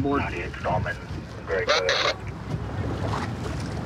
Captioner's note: radio communication